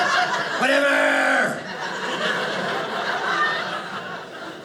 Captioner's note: audience laughing